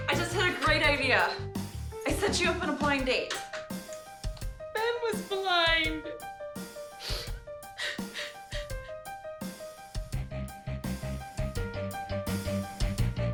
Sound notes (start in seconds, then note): 7.1 crying; 10.0 hard rock music